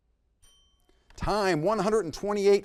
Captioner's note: bell chimes